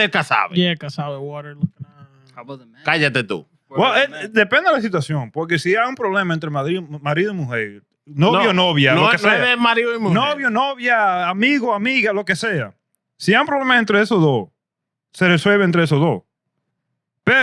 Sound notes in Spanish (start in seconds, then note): 3.0 Hablando en idioma extranjero